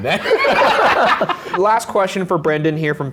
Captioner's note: everyone laughing